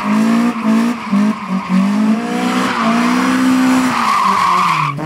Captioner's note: car sounds